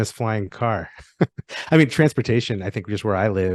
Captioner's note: chuckles